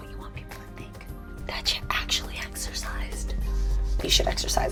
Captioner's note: whispers